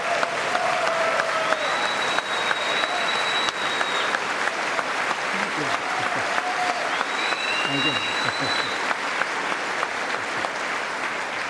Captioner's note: applause